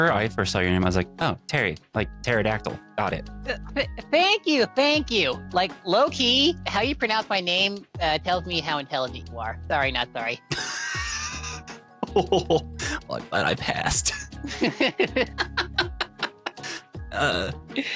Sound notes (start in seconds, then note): 10.6 wheezing; 14.5 laughing